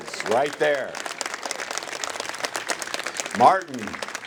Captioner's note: applause